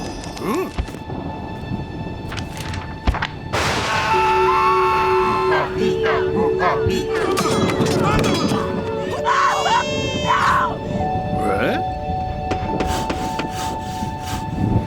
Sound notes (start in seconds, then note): 3.6 screaming; 3.8 chanting; 6.5 swords clanking; 8.3 yelling & baby crying; 10.3 curious exclamation; 12.5 hammering and sawing